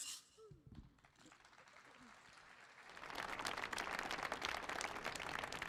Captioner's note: audience applauds